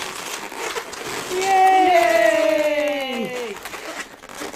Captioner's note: cheering